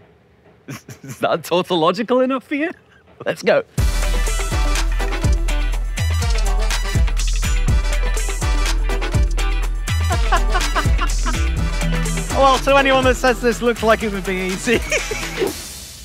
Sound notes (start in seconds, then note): 4.3 upbeat music; 10.0 laughing